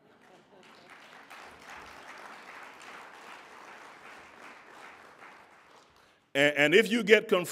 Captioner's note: applauding